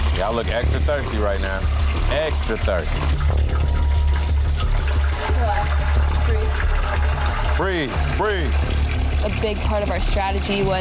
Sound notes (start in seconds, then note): 0.0 dramatic music; 0.0 water splashing; 3.6 water splashing